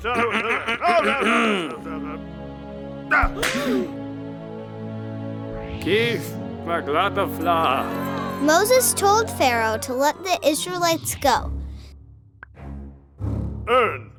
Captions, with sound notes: (Moses clearing throat) (Moses speaking gibberish) - [Voiceover] Moses told Pharaoh to let the Israelites go.